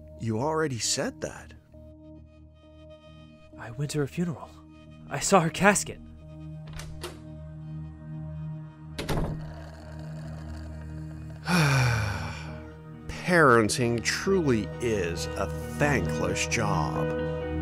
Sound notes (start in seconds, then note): 12.1 sighs